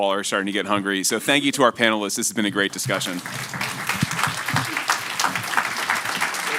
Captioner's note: applause